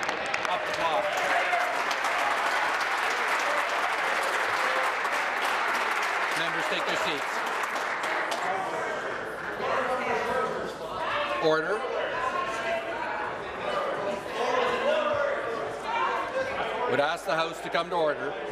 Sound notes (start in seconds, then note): 3.0 applause